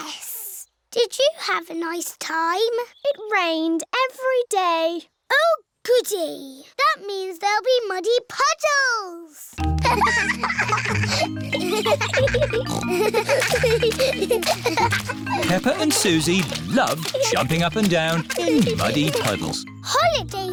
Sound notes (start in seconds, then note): 10.5 giggling; 12.3 peppa snorts